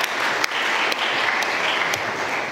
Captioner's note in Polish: oklaski